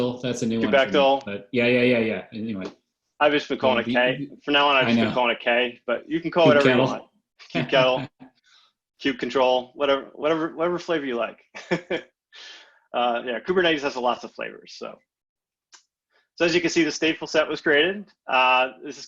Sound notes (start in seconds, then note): 7.5 laughs; 11.7 laughs